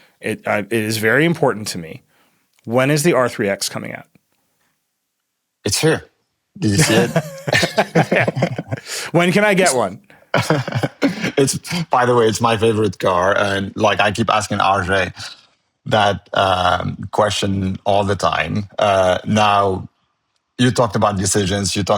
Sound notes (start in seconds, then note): 6.6 both laughing